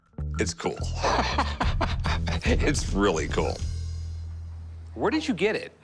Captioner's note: laughs